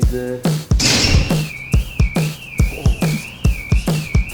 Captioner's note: alarm ringing